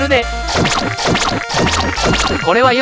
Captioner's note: knife stabbing sound effect